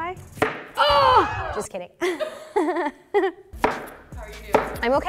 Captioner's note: screams; both laughing